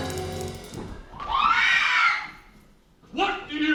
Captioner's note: crowd screams